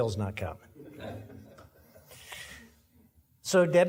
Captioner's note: audience laughing